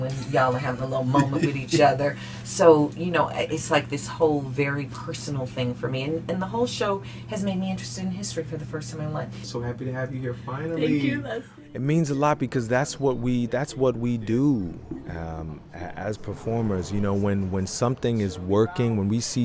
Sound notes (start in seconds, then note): 2.7 laughing